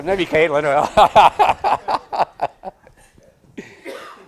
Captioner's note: all laughing